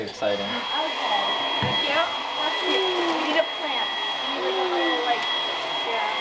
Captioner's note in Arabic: تشغيل بالمكنسة الكهربائية